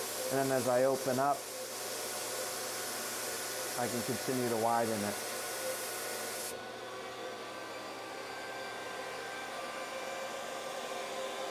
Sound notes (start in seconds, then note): 6.7 compressor whining